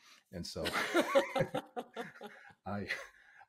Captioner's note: laughs loudly